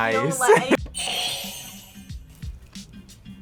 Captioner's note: buzzer rings